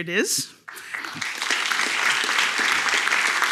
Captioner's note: applause